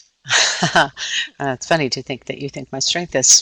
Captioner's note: laughing